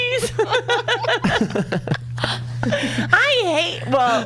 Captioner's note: laughs